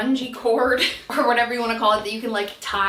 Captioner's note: laughing